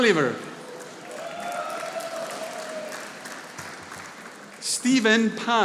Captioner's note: audience applauding